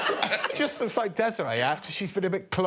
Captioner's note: audience laughing